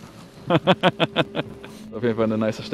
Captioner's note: laughter